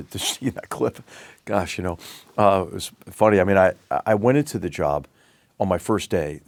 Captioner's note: laugh